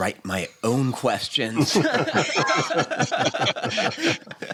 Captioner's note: laughter